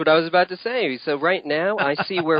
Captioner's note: chuckles